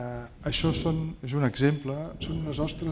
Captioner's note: speaking spanish